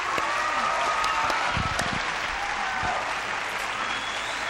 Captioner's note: audience cheering loudly